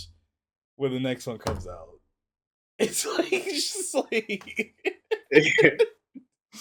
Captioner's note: laughs